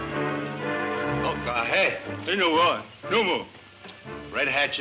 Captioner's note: men speaking foreign language